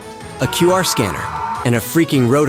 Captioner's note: man Screaming Sound Effect.mp3